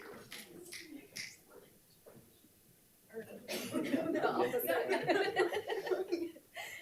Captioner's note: participants applauding; board Members talking and laughing off microphone